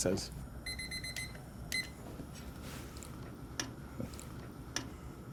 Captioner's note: timer beeping